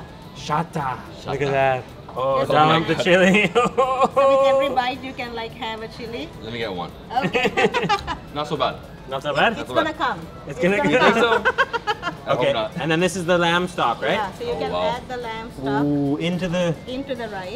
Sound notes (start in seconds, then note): 7.2 people laughing; 11.0 laughing